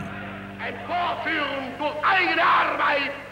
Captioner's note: Hitler speaking in German